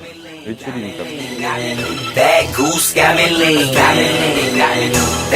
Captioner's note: farting